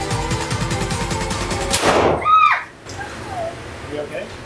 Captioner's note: gun firing; screams